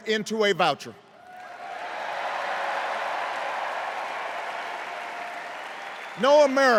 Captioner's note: cheers and applause